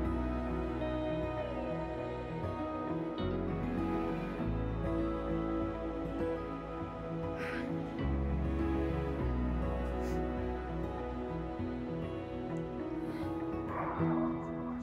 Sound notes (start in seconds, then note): 7.3 exhaling